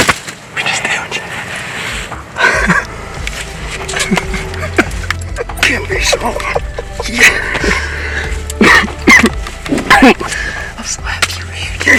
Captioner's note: excited voices